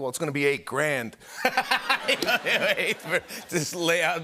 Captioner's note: laughter